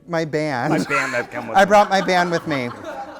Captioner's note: voiceover; laughter